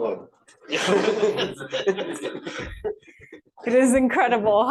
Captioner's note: laughing